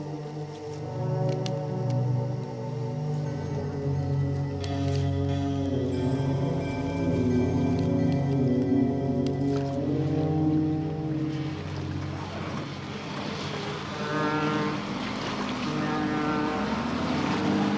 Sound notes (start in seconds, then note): 14.0 foghorn